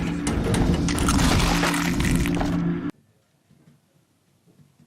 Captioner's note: bones crunching